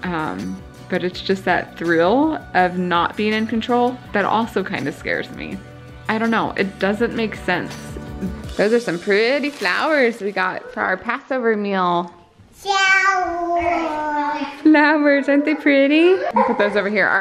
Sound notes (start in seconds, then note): 13.1 girls babble; 15.2 children laughing